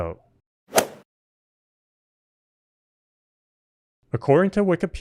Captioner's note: golf swing sound effect